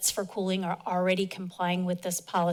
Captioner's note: none